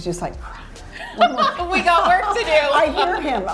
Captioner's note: laughs